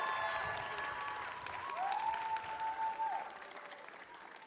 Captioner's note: cheers and applause